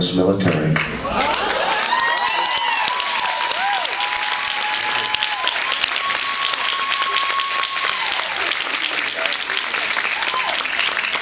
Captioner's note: applauds